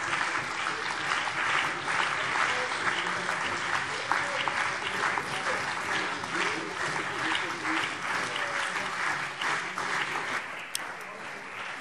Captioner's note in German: Anhaltender Beifall CDU und BÜNDNIS 90/DIE GRÜNEN